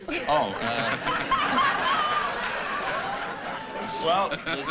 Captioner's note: laughter